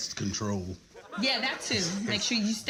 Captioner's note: audience laughs